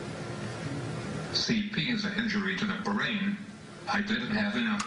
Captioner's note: voiceover